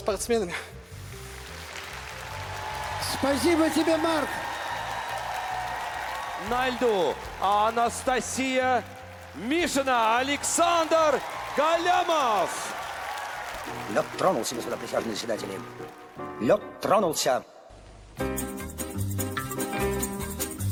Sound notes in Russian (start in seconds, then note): 5.6 ликование; 13.7 аплодисменты